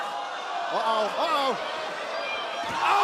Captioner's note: crowd cheering